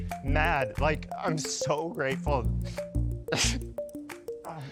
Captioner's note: sobs